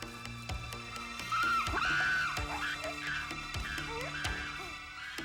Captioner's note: animals squealing